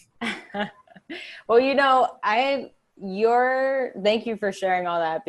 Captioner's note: laughs